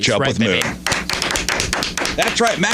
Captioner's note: audience applauds